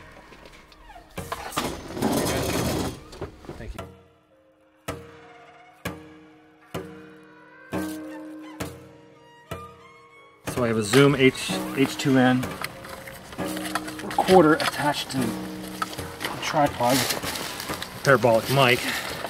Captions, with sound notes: (metal scraping) Thank you. (ominous music) So I have a Zoom H2n recorder attached to the tripod, parabolic mic.